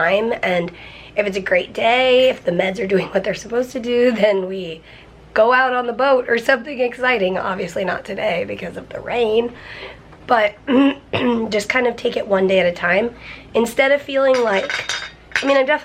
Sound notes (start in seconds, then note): 10.7 clears throat